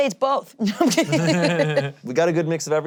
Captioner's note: laughs